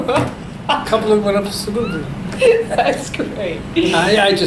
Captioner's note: laughs